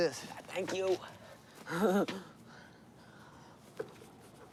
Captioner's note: laughs